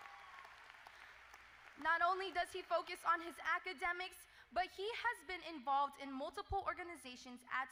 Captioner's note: applause